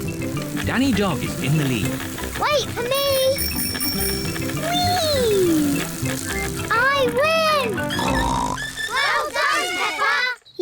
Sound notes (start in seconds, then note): 2.9 rings bell; 7.8 snorts